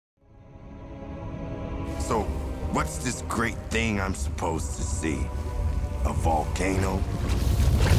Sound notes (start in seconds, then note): 6.6 lava bubbling. Gas escaping